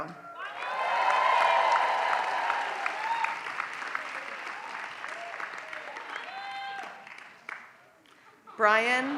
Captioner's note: applause